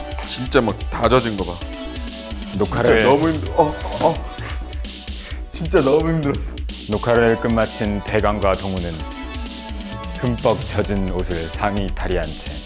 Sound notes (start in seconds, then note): 3.6 flop